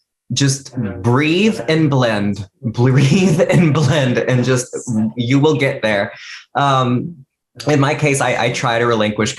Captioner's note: laughs